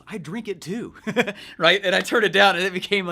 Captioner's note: laughs